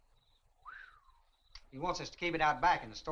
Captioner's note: Chase whistles in surprise